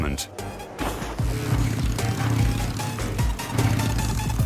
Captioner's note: engine roars